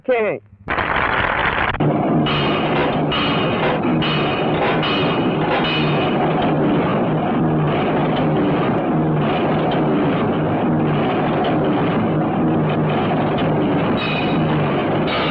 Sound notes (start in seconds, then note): 0.8 applauding; 2.2 hammering; 13.9 hammering